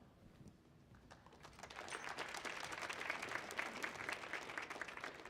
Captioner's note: audience applauds